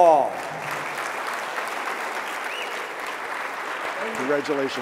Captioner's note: audience clapping